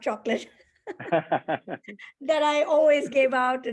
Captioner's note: laughter